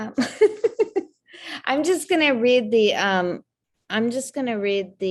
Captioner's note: laughing